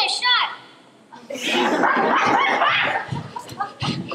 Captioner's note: laughter